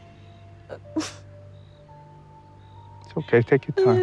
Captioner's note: crying